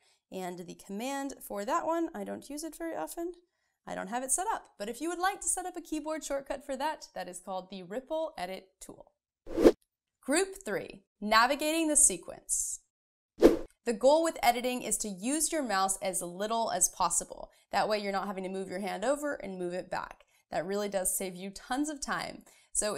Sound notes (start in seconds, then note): 9.5 air swooshing; 13.4 air swooshing